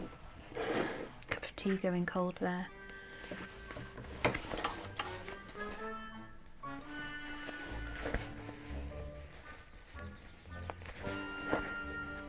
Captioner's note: mug sliding across the table